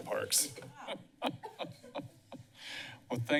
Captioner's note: laughs